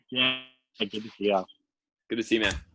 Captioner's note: murmurs